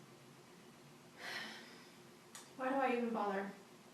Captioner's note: sighs